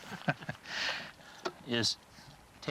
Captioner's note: both laugh